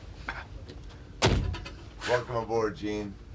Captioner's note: door rattles